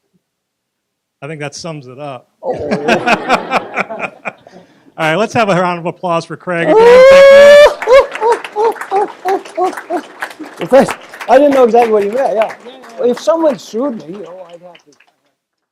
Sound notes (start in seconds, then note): 2.4 laugh; 7.2 applause